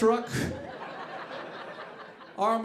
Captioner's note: audience laughing